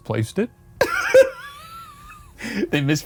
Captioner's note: laughs